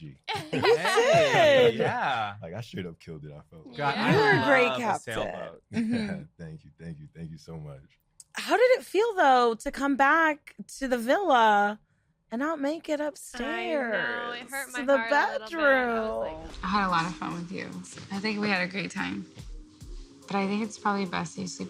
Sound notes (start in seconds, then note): 0.2 laughter